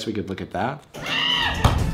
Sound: screaming

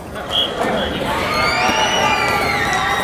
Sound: cheering

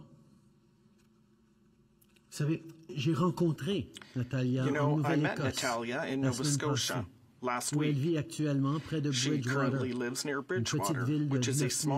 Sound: speaking French

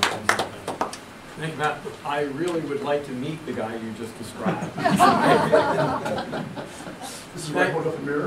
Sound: audience Applauds; audience Laughter

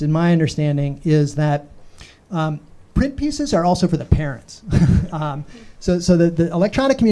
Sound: chuckles

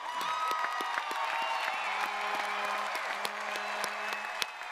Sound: audience applauding

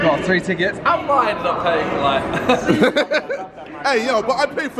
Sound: laughing

